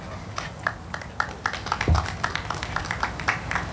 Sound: audience clapping

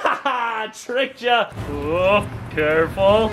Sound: laughing

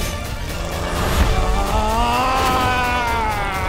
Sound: loud growl

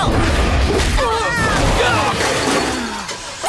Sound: grunting

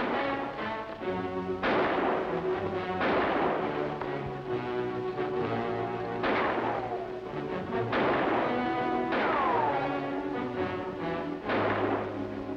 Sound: gun shots continue

